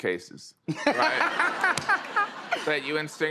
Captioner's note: laughter